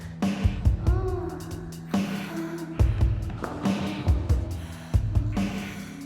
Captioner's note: moaning